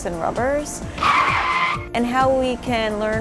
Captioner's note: sound of tires screeching